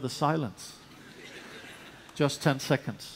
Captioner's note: laughter